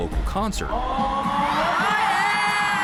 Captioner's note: crowd